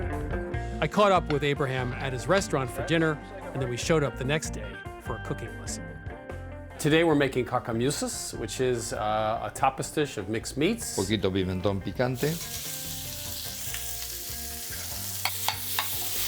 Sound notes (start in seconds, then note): 10.8 speaking Spanish; 12.2 sizzling